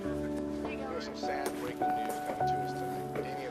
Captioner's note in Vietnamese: tiếng TV